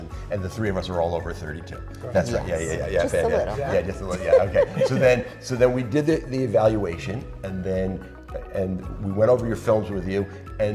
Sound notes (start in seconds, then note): 2.7 laughing